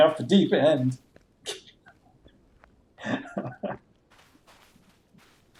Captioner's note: chuckles